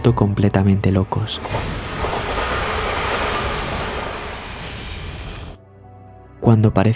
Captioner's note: train